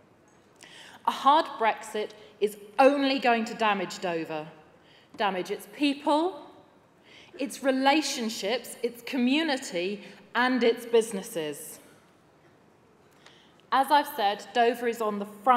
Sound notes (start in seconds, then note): none